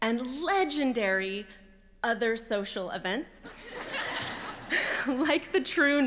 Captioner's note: laughter